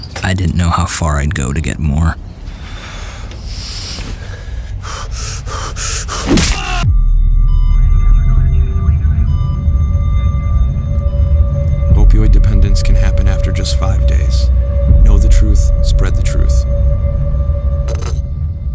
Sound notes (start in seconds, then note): 4.8 heavy breathing; 6.3 sound of impact, man yelling